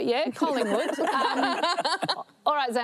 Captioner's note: laughs